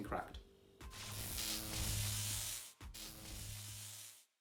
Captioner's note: electric Buzz